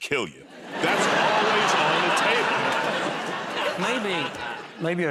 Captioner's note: laughter